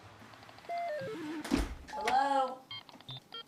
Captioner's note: video game beeping